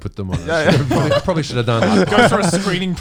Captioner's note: all laughing